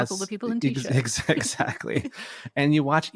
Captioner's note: both laughing